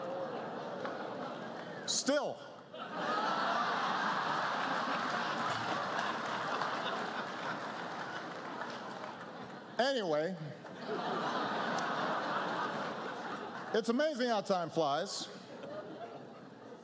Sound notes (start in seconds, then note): 0.0 laughter; 6.2 laughter